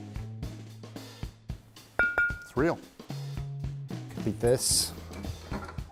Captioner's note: dinging